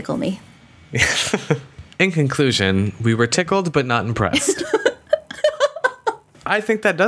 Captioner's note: laughing